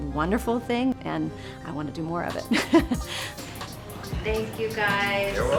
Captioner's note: chuckles